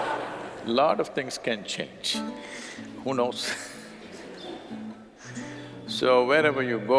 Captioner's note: laughs